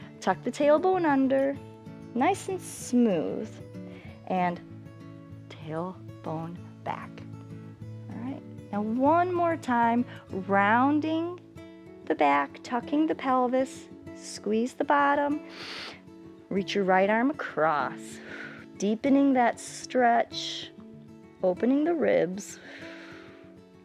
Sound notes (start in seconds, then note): 15.4 inhales; 22.6 exhales